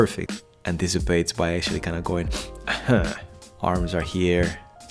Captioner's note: sniffs